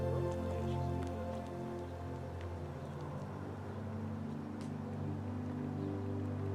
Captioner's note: traffic droning; gentle music continues